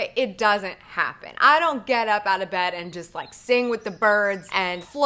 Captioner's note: birds chirping